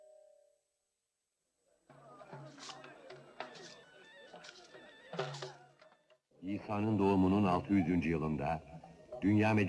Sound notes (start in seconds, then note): 1.7 people chattering; 1.9 lively music